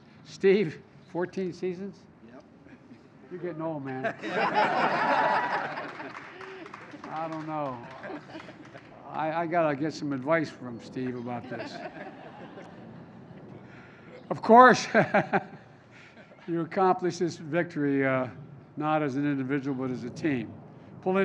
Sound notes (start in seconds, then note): 3.9 laughter; 11.3 laughter; 15.9 laughs